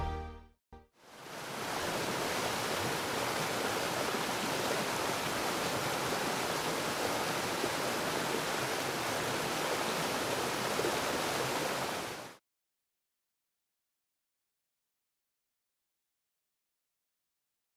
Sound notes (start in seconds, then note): 2.5 waterfall running